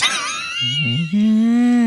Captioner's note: screaming